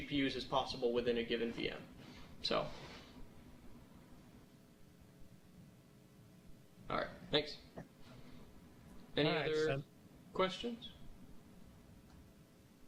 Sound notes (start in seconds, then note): 2.7 pause